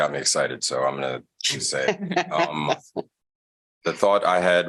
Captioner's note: laughter